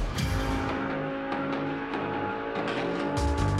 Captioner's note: engines revving